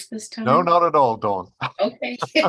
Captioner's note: laughs; chuckles